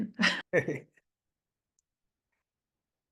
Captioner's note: chuckles